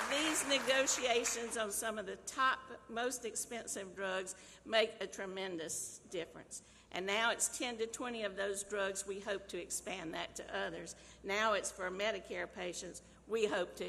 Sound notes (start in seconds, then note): 0.0 applause